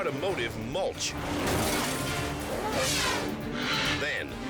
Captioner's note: car smashes; fox snarls